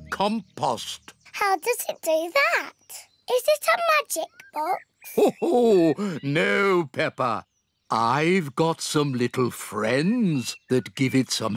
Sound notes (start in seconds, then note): 5.0 laughs